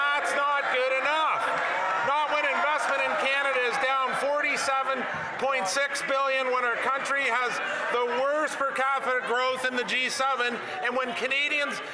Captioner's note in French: voix de l'interprète